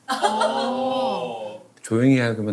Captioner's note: exclaiming